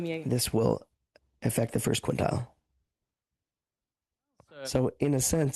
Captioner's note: speaking French